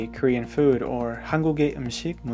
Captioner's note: speaking in a Korean language